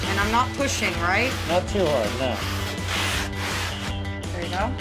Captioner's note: scraping sound